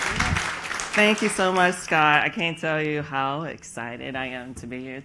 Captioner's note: applause